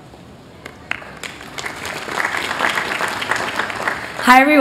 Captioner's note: applause